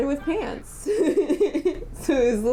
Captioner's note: laughter